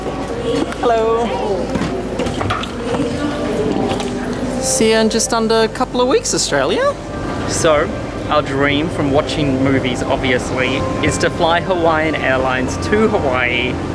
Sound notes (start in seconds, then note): 2.5 muffled intercom speaking